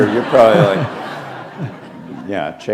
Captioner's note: laughter